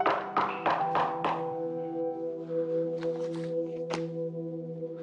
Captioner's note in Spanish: Toques en la puerta